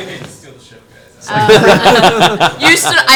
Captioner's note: all laugh